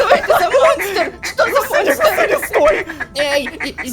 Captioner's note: screamer